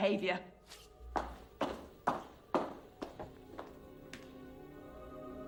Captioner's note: footsteps fade